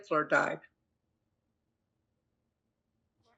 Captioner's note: pauses 6 seconds